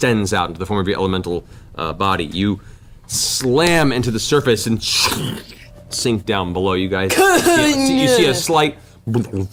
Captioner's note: burble sound